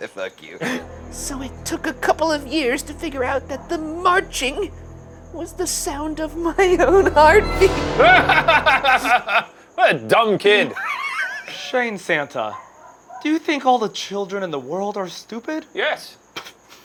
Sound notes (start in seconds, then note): 0.6 laughing; 8.0 laughing